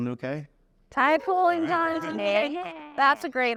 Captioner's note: chuckles